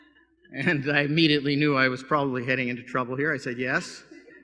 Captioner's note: laughter